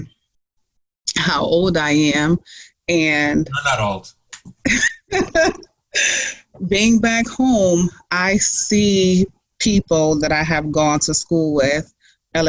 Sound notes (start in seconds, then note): 3.6 laughs